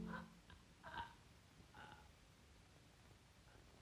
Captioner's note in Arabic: صوت شهقة